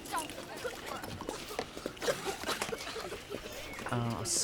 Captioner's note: children coughing